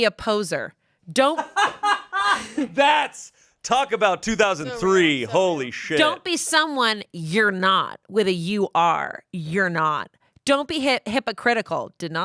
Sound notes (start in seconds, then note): 1.2 laughs